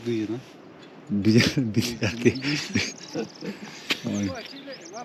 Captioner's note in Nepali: हास्य